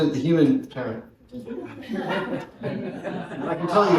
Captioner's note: laughter